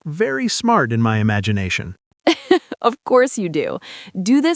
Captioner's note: laughs